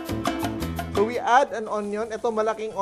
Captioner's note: sizzle